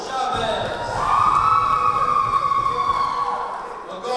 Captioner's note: cheering